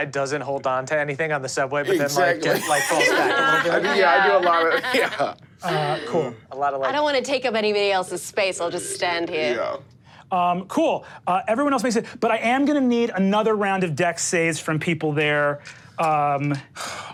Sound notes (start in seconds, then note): 1.9 all laugh